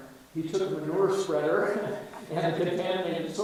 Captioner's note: chuckles